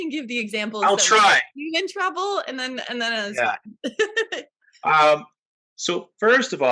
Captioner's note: laughter